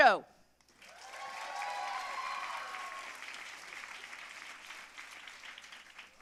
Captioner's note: audience cheering and applauding